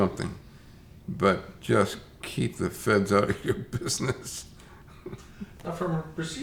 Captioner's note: chuckles